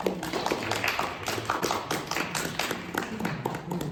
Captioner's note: audience applauding